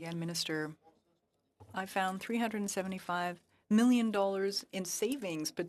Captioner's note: speaking French